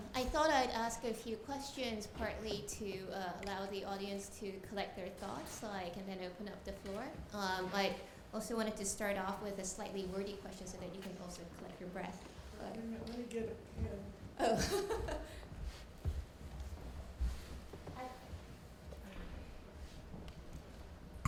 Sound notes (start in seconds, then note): 14.5 laughing